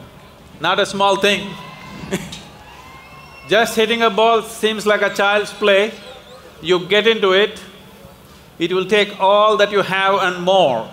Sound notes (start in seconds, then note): 2.0 laughs